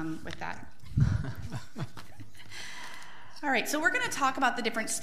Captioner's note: board laughs